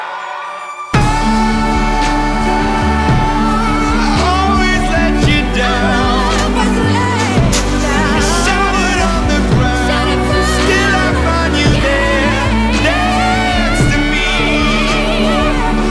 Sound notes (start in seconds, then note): 8.8 shattered